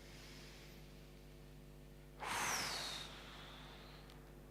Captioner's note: inhaling, exhaling